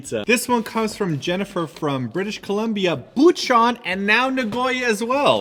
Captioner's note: none